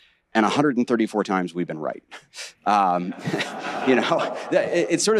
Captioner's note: audience laughing